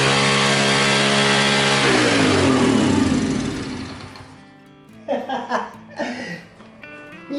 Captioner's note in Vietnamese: cười